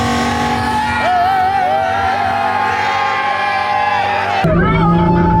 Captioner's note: crowd cheering